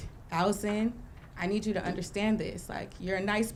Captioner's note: none